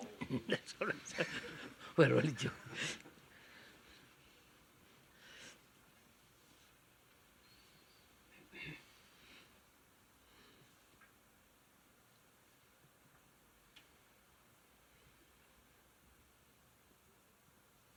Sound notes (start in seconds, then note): 3.9 laughs